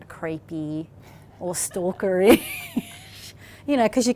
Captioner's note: laughs